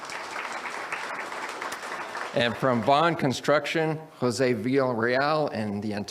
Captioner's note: audience applauds